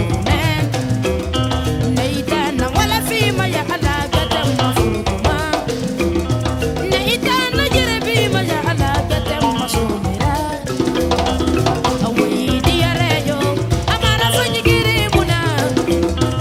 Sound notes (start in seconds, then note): 0.0 foreign language